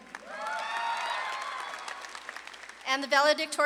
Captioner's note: audience claps and cheers